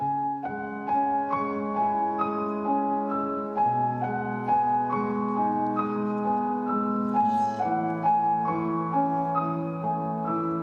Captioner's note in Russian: вздыхает